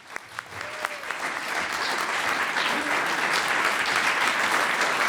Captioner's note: audience applauds